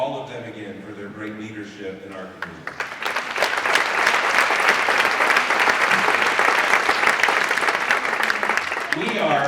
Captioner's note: applause